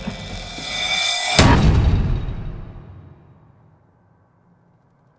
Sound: door closing

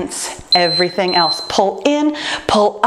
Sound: timer beeping

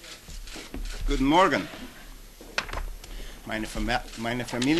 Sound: speaking german

